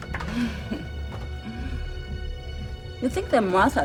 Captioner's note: chuckles